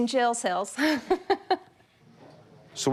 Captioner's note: laughs